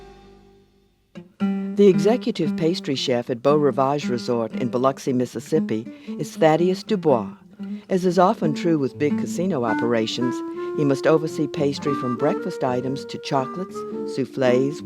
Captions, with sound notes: - [Voiceover] The executive pastry chef at Beau Rivage Resort in Biloxi, Mississippi is Thaddeus DuBois. As is often true with big casino operations, he must oversee pastry from breakfast items, to chocolates, souffles, wedding cakes,